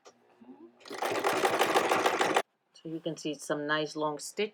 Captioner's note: sewing machine tapping